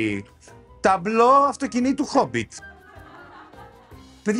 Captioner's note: laughter